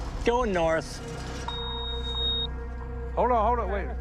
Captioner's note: high-pitched tone